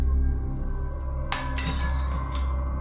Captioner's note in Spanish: Cristales rotos